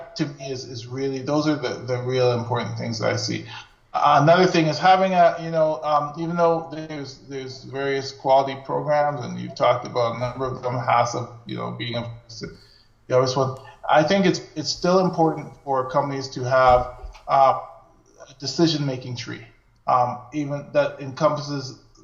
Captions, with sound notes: Those are the real important things I see. Another thing is having, even though there's various quality programs and you talked about a number of them, HACCP being [audio skips]. I think it's still important for companies to have a decision-making tree that encompasses